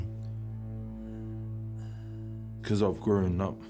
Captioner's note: driver breathes heavily